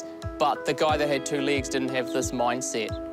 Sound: none

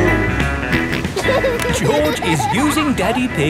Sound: snorts and laughs

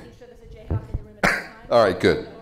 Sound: coughs

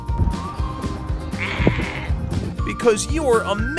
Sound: distant bleating

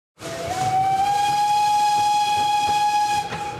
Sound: steam train whistle

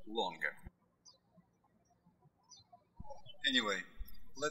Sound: birds chirping

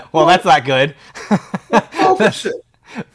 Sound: laughing

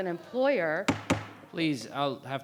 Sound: gavel banging

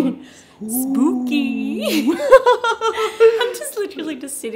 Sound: laughs

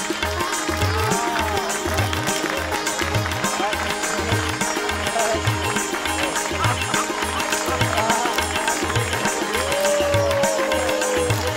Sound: cheering and clapping

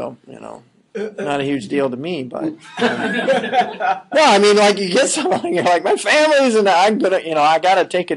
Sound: laughing

